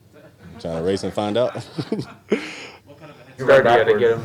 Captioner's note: laughter